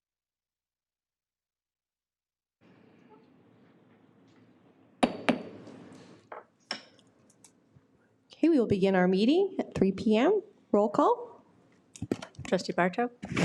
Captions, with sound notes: (gavel bangs) - Okay, we will begin our meeting at 3:00 p.m. Roll call? - Trustee Barto?